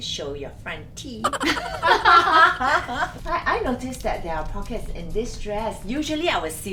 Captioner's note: laughs